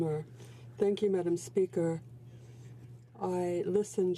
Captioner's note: speaking in french